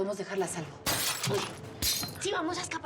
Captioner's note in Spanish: estrépito de vidrios